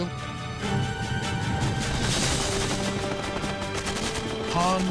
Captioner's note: gunfire